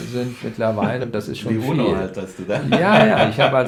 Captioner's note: laughs